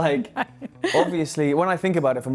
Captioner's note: laughing